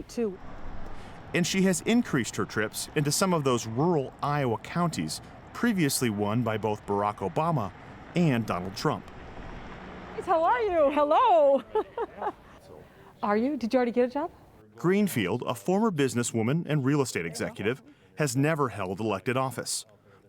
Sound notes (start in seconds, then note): 11.5 laughter